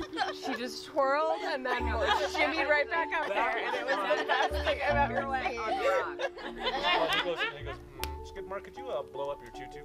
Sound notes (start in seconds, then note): 4.6 laughing